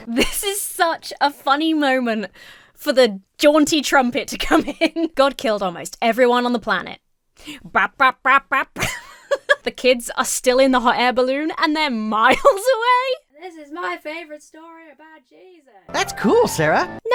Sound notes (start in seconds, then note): 4.7 Emma laughs; 7.8 Emma imitates upbeat music; 8.7 Emma laughs; 12.3 Emma laughs